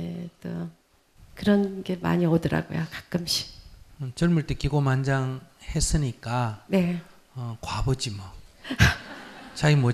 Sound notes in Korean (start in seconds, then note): 8.7 질문자 웃음